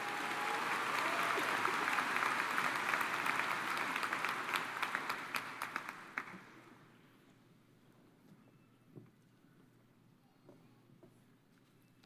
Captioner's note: cheers and applause